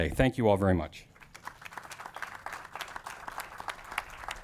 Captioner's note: audience claps